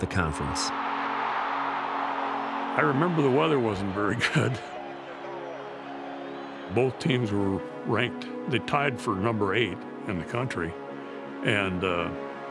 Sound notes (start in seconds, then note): 1.7 crowd Cheering; 6.0 crowd cheering